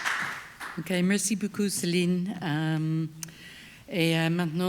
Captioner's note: speaks French